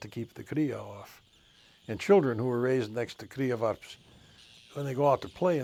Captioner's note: speaks Icelandic